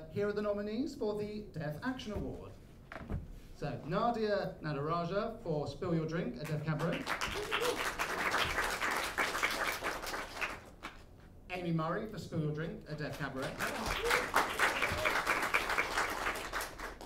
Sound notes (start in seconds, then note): 6.7 applause